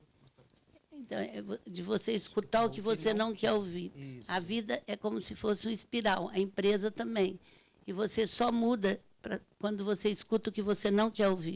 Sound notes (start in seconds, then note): 1.2 speaking Portuguese